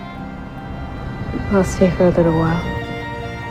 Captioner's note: voiceover